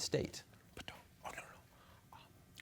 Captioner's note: whispering